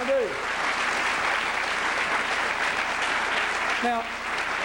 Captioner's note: applause